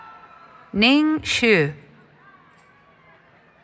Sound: cheering

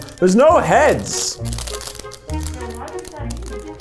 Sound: plastic crinkling

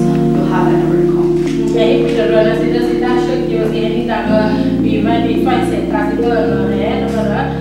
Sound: translating in Burmese

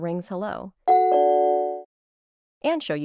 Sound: doorbell rings

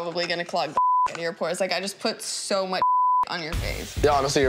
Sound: beeps; beeps

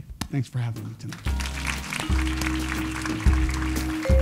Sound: applause

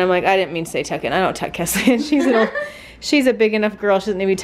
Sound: giggles

